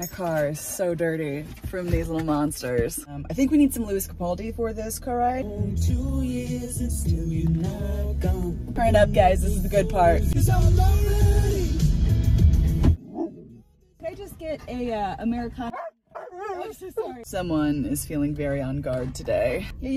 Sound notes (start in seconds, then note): 13.0 dog barks; 15.7 dog barks